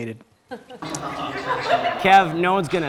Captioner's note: audience laughing